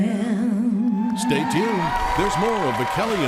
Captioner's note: audience cheering